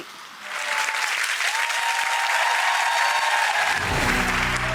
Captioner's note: audience applauds